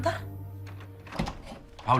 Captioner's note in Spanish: Sonido al abrir la puerta